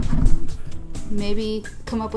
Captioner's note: bu-bump